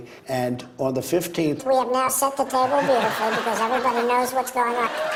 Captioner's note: high-pitched voice